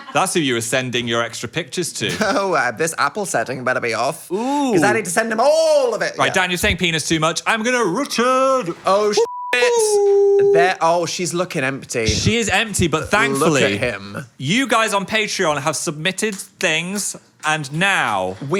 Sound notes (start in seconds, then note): 9.2 beep